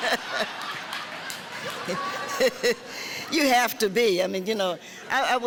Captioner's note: laughing